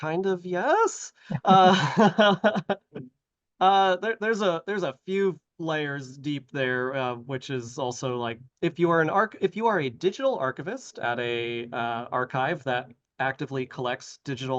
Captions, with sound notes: kind of yes. [LAUGHTER] There's a few layers deep there, which is also like... If you are an... if you are a digital archivist at a archive that actively collects